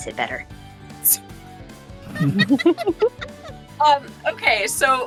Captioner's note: EVERYONE giggles